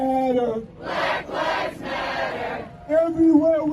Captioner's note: crowd